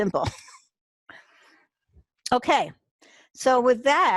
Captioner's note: chuckles